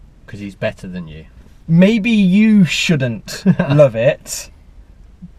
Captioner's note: laughs